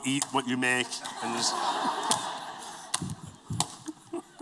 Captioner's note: laughter